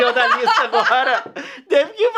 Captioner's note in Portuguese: risos